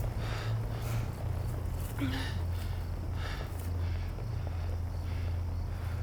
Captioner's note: Brandy breathing heavily; insects chirping